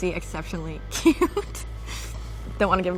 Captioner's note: laughter